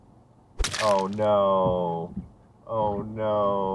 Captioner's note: splat